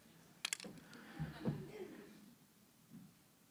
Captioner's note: laughter